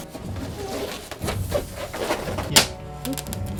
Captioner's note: styrofoam squeaks; box cutter slices